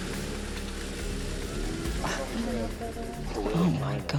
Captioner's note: group chatter